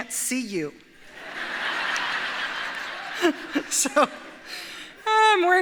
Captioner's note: audience laughs